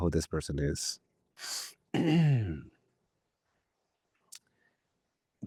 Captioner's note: clears throat